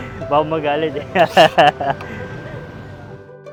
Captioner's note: laughs